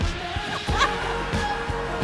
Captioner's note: laughter